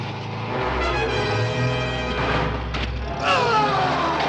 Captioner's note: engine rumbles; man groans